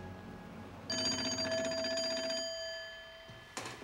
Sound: phone ringing

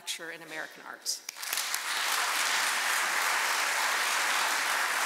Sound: audience applauding

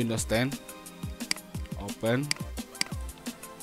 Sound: click

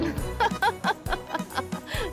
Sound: giggling

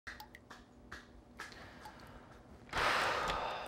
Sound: trickling; heavy sigh

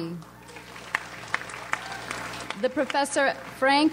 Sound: audience applauds

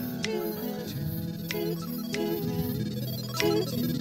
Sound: toot toot toot; electronic music

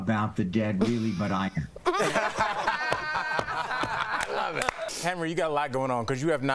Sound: laughter

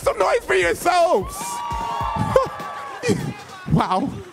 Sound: crowd cheering

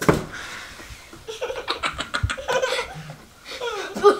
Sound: laughing

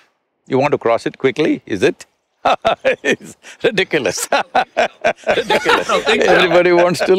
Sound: both laugh

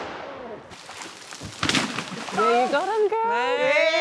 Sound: gun shot; animal falling

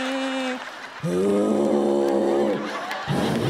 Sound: groaning

